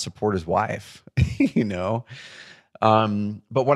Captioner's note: chuckles